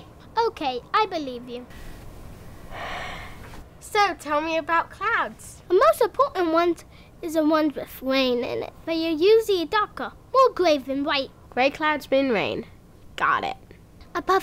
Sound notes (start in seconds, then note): 2.6 sighs